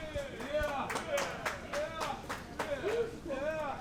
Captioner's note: cheering